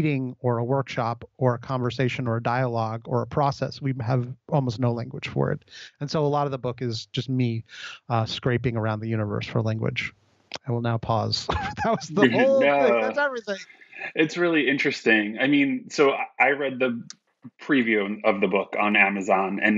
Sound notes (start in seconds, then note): 10.6 laughs